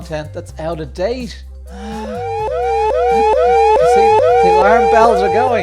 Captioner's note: alarm bells blaring